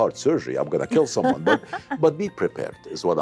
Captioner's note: laughs